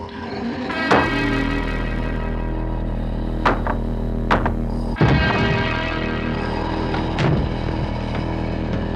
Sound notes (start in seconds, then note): 4.2 pounding on wall